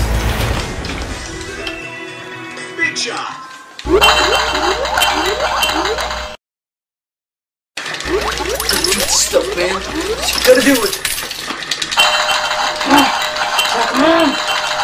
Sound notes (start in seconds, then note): 0.0 music abruptly stops; 3.8 pinball noises